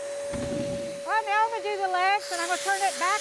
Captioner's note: wood stacking sound